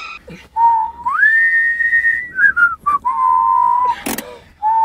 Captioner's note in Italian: fischiettano